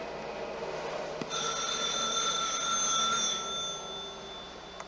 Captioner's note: ringing